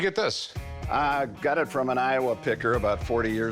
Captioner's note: none